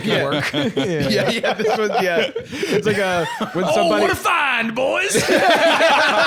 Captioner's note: laughs; all laughing